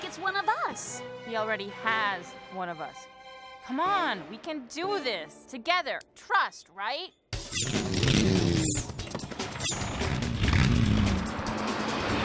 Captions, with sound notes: HE ALREADY HAS ONE OF US. COME ON! WE CAN DO THIS. TOGETHER. TRUST, RIGHT? [ENGINES REVVING]